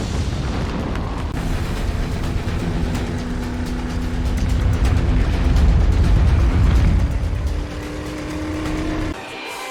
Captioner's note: loud rumbling; boat engine whirring; jet engine noise